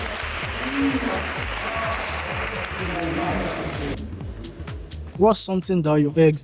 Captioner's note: applause